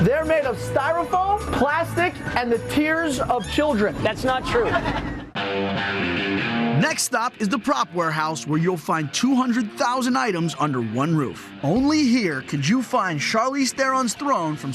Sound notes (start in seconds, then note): 4.3 group laughs; 5.4 rock music